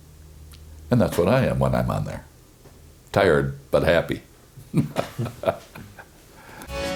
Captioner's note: chuckles